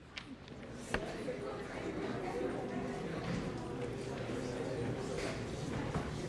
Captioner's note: audience murmuring